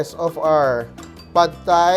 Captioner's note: clang